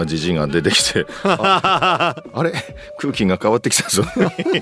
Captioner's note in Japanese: 笑い